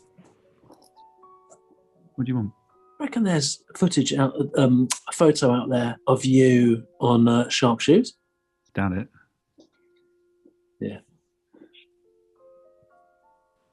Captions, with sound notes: [WHISPERS] What do you want? [WHISPERS] You reckon there's footage... [WHISPERS] Um, a photo out there... [WHISPERS] ...of you... [WHISPERS] ...on, er, sharp shoes? [WHISPERS] Doubt it. [WHISPERS] Yeah.